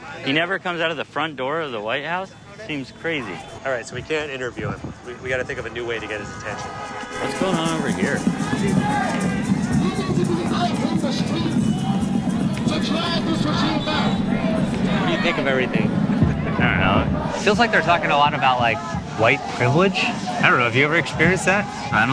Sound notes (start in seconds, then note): 9.2 drums beating; 11.0 people chanting